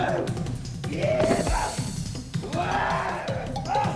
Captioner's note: groaning